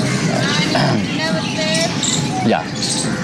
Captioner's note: child speaking foreign language